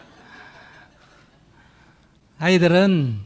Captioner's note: laughter; audience laughter